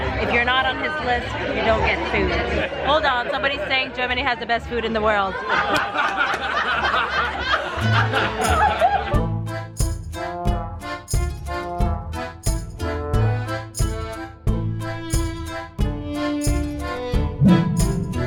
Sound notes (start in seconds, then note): 5.4 laughs; 8.8 accordion music